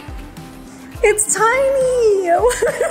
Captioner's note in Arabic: يضحك